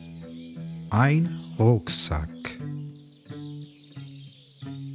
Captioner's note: german